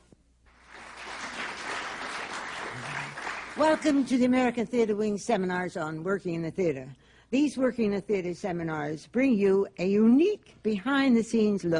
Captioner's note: applause